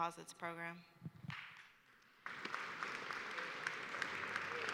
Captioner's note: applause